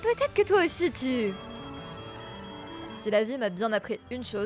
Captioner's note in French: alarme incendie